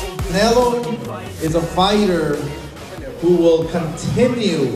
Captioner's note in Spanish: hablando inglés